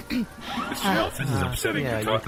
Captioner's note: clears her throat